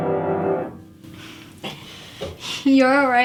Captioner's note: both laugh